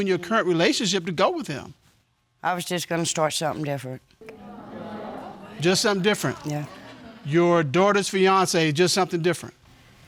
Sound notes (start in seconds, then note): 4.4 audience exclaiming